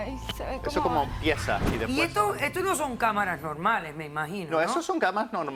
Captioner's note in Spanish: Hablan al unísono